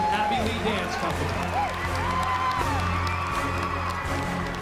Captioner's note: cheering and applause